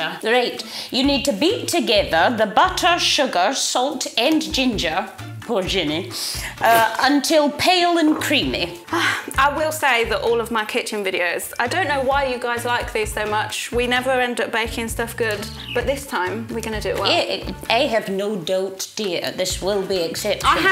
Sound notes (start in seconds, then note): 6.4 laughs